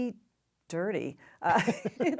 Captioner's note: laughter